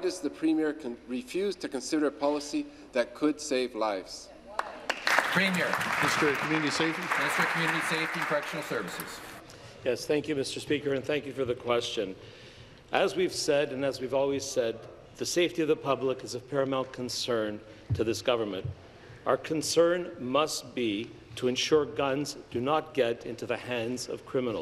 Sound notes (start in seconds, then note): 7.2 applause